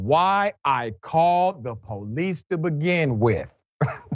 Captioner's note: laugh